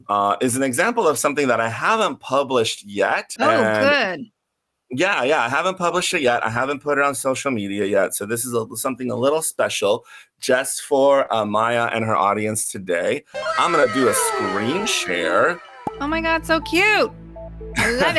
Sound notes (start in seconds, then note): 13.4 children saying “wow” sound effect